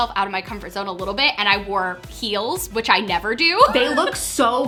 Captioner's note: laughs